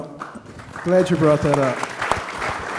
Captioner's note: applause